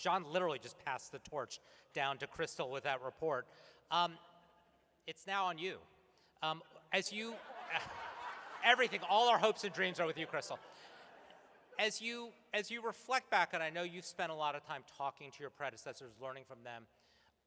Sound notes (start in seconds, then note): 7.0 laughter